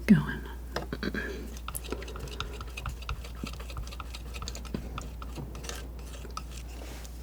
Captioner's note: tapping